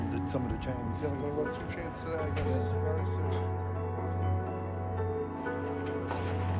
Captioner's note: indistinct conversation; upbeat acoustic music